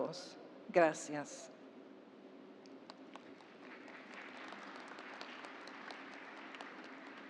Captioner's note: applause